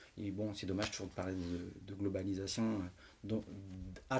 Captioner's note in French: none